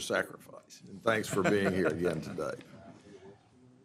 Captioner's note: laughter